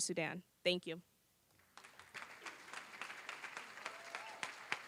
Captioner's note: applause